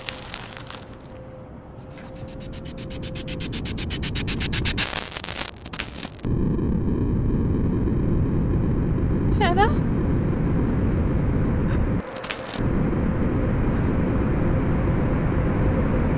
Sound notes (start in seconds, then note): 1.8 distorted static; 11.6 frightened breathing